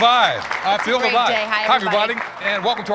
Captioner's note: applause